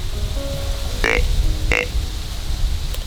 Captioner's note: sound of wind in leaves; grunt call; wind in leaves